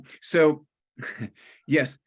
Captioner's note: chuckles